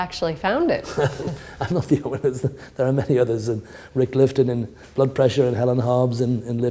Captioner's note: chuckle